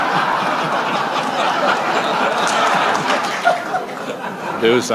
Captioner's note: laughter